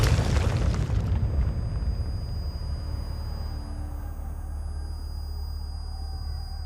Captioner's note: explosion blasting, screaming; indistinct shouting; high-pitched whining